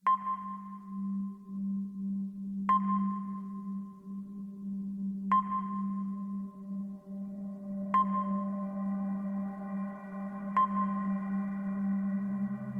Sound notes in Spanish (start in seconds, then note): 0.0 música de suspense; 0.0 sonido del sónar